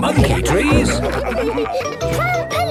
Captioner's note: all laughing